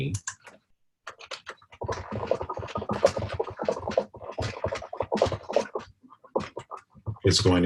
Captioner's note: typing Sounds